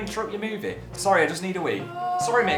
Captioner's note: starts screaming in background